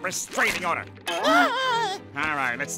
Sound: shrieking

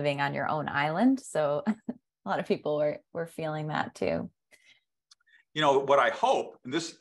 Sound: chuckles

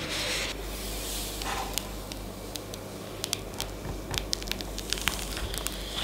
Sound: peeling noise

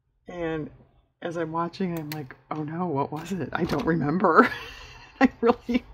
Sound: laughs

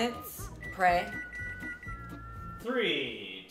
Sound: beeping

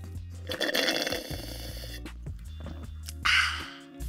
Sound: slurps straw

